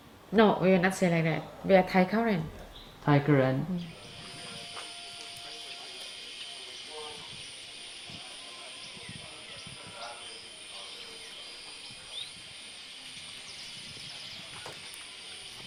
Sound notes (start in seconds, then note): 4.6 insects chirping; 6.3 birds chirping